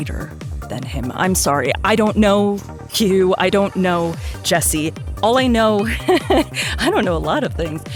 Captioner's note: chuckles